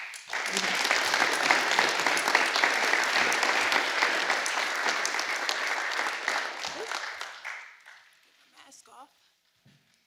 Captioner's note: applause